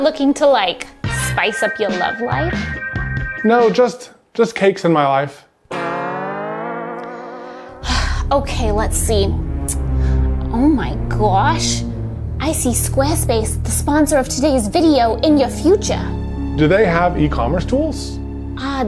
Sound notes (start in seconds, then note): 6.2 silly music; 7.7 sighs